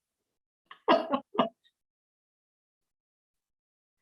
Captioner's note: chuckling